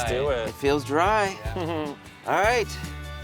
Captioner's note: chuckles